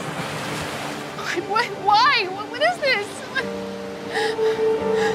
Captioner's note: dramatic music; sobbing